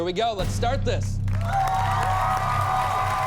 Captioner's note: cheering